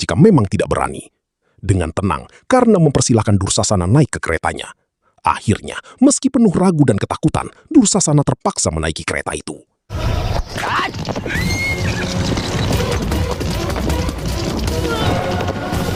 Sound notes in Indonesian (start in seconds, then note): 11.2 berteriak